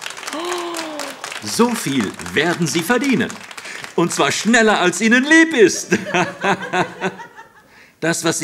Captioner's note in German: begeisterter Applaus; lacht